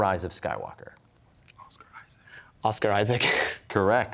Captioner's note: whispering; laughs